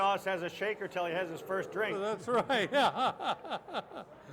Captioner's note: laughing